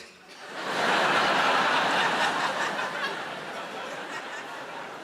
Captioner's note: audience laughs